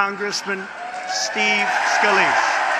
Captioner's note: applause